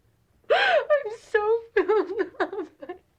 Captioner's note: sobbing